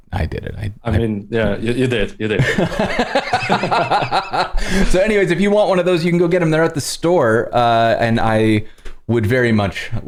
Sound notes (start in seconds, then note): 2.4 laughter